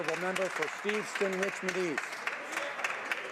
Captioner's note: some Applause